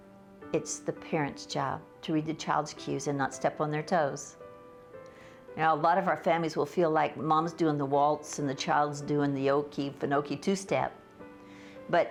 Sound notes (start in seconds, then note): none